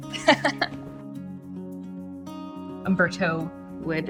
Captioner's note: gentle music; chuckles